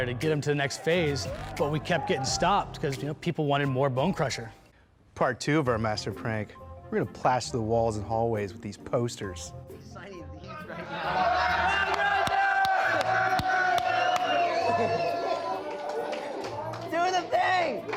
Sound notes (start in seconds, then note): 11.2 cheering